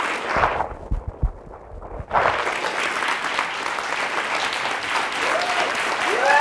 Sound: audience applauding and cheering

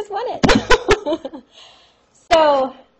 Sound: laughter

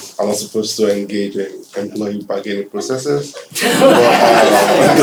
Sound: laughter

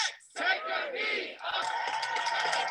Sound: crowd; claps and applauds

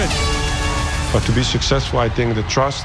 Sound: end of round horn blares

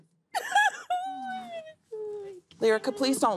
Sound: crying

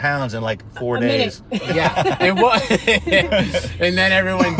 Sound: laughing

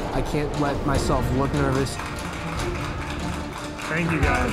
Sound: clapping

